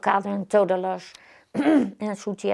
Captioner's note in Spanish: carraspea